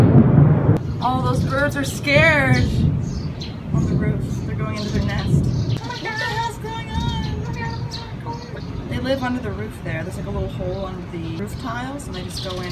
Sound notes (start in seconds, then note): 6.1 mimicking the birds